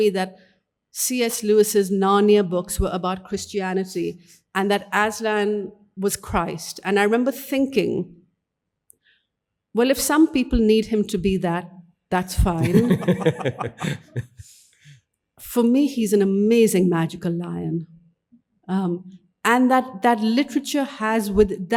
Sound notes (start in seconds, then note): 12.6 audience laughing; 12.6 laughs